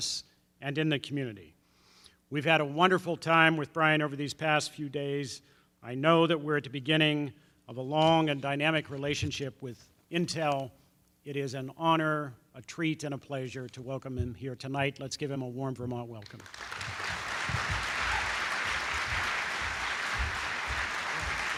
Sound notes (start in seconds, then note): 16.2 applause